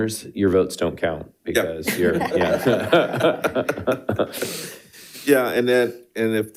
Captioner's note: participants laughing